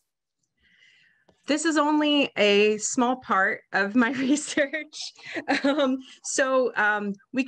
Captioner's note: chuckles